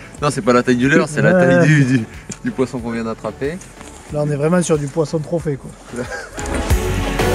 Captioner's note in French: rires